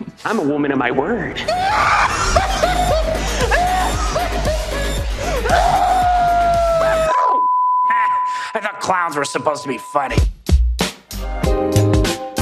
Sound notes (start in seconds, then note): 1.5 Joker Laughing; 7.4 TV beeping